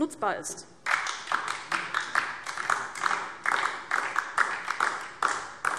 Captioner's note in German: Beifall DIE LINKE